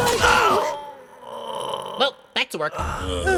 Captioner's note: A knife is dropped